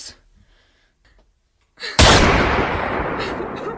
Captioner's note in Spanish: disparo; llanto